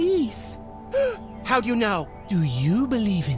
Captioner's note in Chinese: 吸气